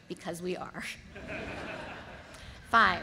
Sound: audience laughs

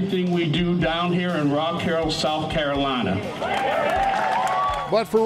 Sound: crowd cheering

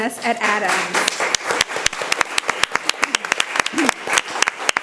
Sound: people applauding

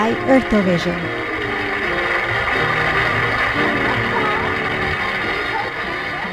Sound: audience applauds, music fades

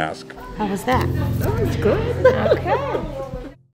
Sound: laughing

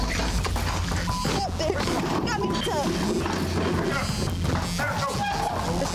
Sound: beep

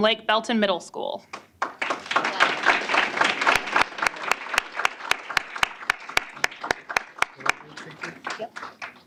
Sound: applause

